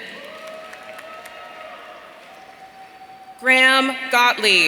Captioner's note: audience cheering